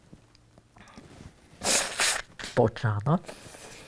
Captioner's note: wiping nose